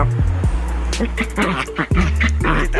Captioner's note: dog grunts; relaxed electronic music